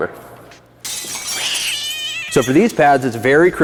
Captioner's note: breaking glass; cat screeches